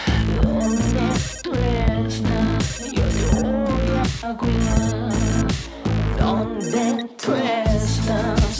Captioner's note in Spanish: Suena un celular